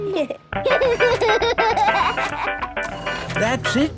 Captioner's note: giggling; giggles, snorts; music fades